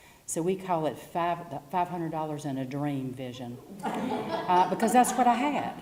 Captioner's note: laugh